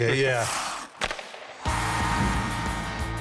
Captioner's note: buzzer blares